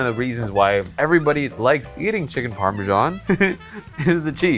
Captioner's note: laughs